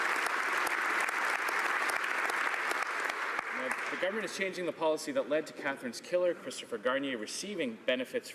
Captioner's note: applause